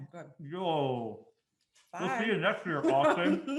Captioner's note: laughing